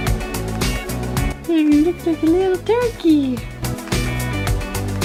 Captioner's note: funky music; in little kid's voice; funky music